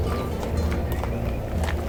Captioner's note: voice-over